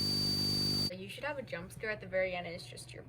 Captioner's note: high-pitched buzzing